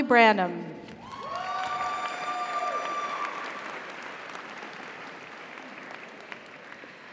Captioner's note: audience cheers; audience applauds